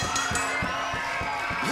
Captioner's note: bell ringing; crowd cheering